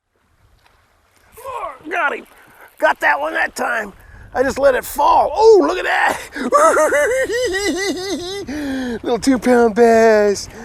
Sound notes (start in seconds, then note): 6.2 giggling